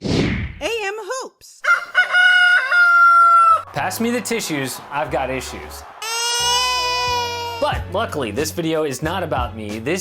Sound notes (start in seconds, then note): 1.6 rooster crowing; 6.0 baby crying